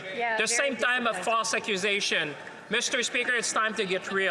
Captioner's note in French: voix de l'interprète